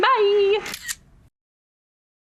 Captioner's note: camera shutter